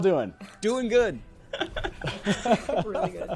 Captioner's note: all laughing